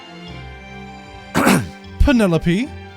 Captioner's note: clears Throat